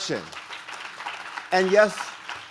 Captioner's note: audience claps